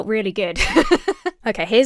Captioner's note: laughs